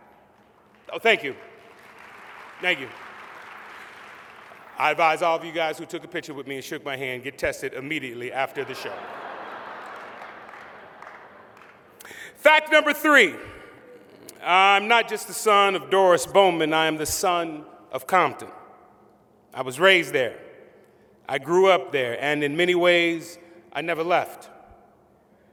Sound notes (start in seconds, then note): 0.0 applause; 8.5 laughter